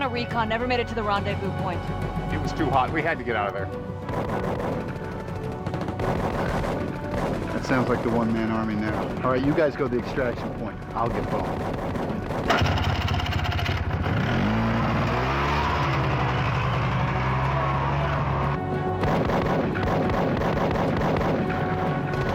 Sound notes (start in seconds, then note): 4.7 guns firing; 13.1 engine revving; 19.0 guns firing